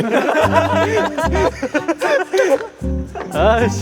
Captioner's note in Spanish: El equipo ríe, porque se identifican